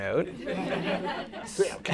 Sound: laughter

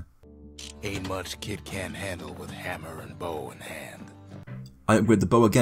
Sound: in-game audio

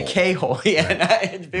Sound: laughs

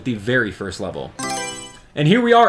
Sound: Mario Selection Sound

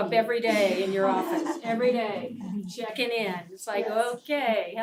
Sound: laugh

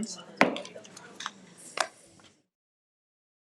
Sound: gavel bangs

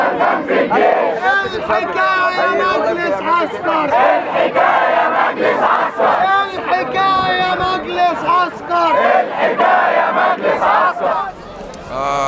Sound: chants

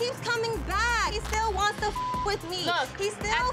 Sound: beep

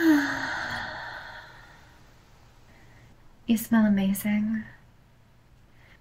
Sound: deep breath

